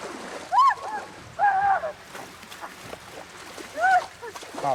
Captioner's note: shrieks